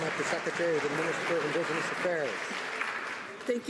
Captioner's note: some Applause